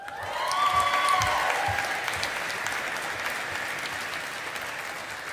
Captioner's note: audience applauding